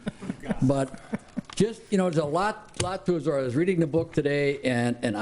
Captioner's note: laughing